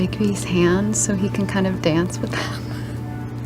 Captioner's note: laughs